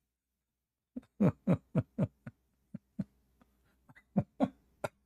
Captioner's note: Ketawa